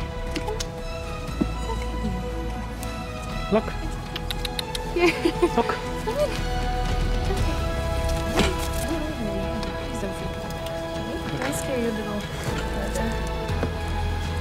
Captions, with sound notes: Come. It's okay baby. Come here. Look. [Tongue clicks] [Laughter] Look. Come on.